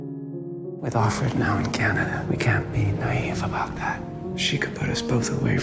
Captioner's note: voiceover